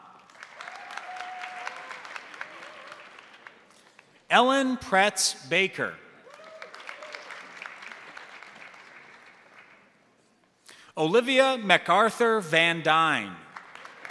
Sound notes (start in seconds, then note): 0.0 crowd cheering; 0.0 crowd applauding; 6.2 crowd cheering; 6.2 crowd applauding; 13.5 crowd applauding; 13.9 crowd cheering